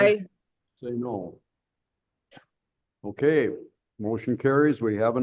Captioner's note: silence